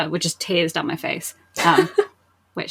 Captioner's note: laughs